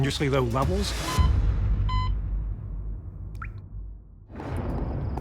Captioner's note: beeping